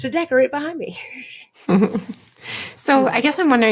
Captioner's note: both laughing